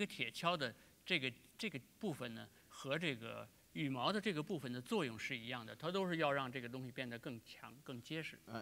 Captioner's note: speaking in Chinese